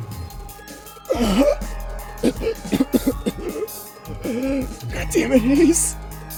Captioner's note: wheezing and coughing